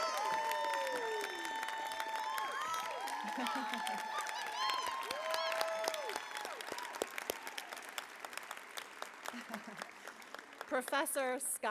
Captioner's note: applause